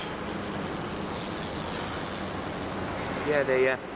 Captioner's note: helicopter whirring